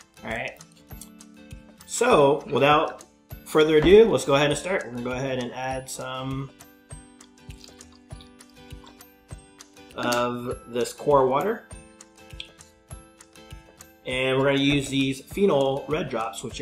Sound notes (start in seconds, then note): 7.0 water trickling; 12.5 lively music